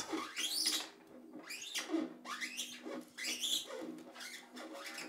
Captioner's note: soft squeaking noise